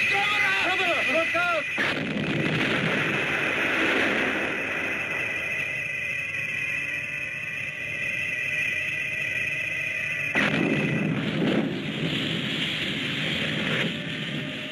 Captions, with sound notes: It's Gammera! - Gammera, look out! (explosion booms) (Gammera whirring) (explosion booms)